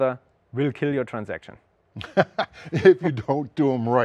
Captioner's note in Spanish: Risas